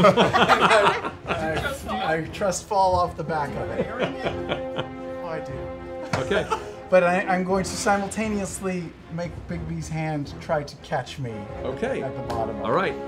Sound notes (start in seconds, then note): 0.0 laughter; 6.4 laughs